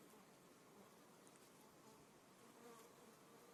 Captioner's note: bees hum